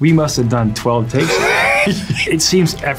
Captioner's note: Aaron laughs